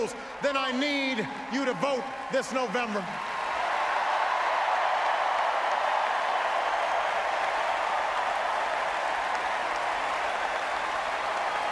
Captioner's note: applause